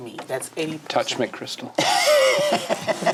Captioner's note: laughs